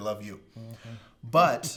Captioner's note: laughs